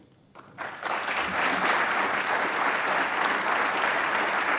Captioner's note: audience applauds